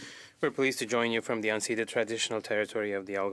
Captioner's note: speaking in French